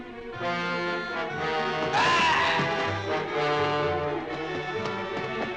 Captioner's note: officer shrieking